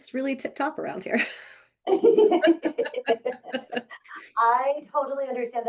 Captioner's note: both laughing